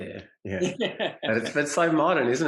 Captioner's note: both laugh